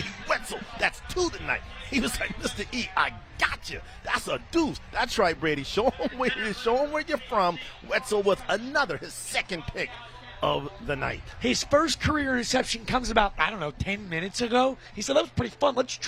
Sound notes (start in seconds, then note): 5.8 laughter